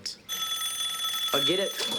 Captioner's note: phone rings